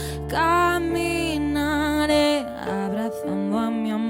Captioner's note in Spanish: none